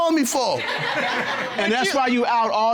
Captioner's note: laughter